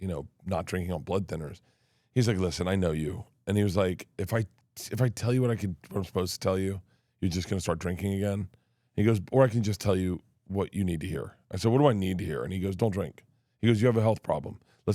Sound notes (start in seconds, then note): none